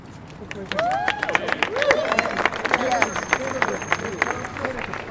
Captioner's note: cheers and applause